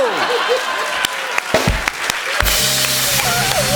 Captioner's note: laughter